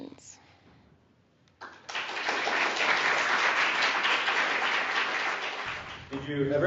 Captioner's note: applause